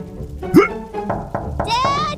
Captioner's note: hiccups; knocking on door